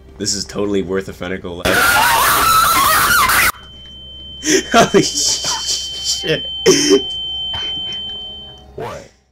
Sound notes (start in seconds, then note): 1.6 raving laughter of a mad man